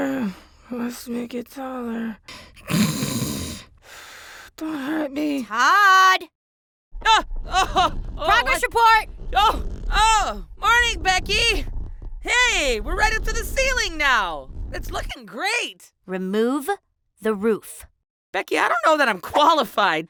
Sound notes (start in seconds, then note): 2.4 snoring; 6.6 surprised exclamations